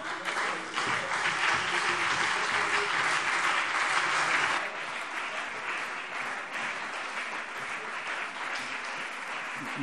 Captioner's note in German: Beifall BÜNDNIS 90/DIE GRÜNEN und CDU